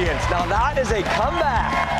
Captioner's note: cheers and applause